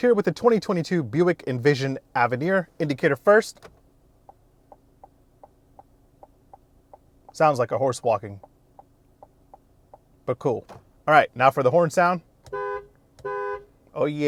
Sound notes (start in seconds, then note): 6.8 ticking sound; 12.4 car horn blows